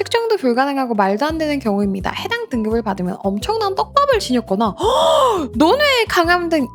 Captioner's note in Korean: 헉 소리